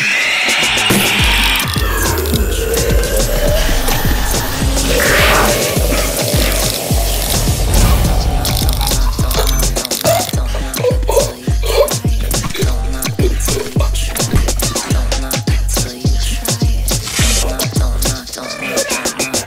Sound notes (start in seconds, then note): 0.2 demon screaming alarmingly; 9.6 gasping loudly